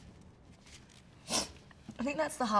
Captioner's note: sniffles